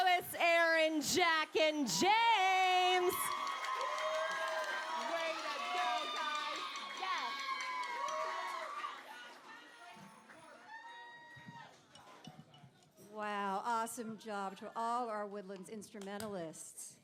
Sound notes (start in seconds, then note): 3.7 cheering